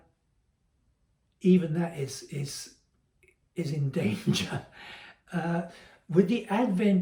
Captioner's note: laugh